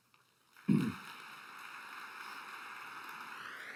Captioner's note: applause